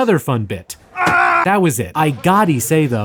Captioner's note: screams